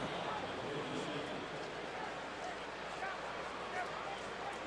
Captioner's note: pa announcement